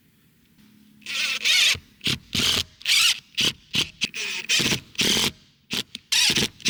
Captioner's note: drilling